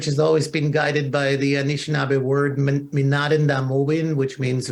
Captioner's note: non-english speech